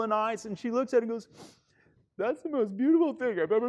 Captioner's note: sniffs